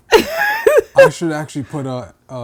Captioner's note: laughing